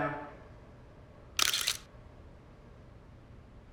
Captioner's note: shutter clicks